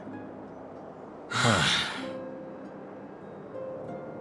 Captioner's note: sigh